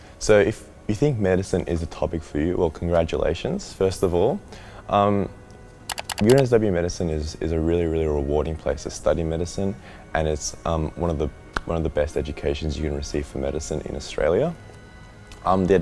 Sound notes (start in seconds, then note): 5.9 clicking